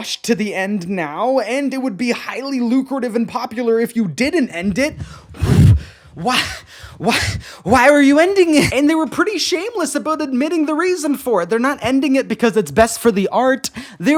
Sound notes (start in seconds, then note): 7.8 blowing into mic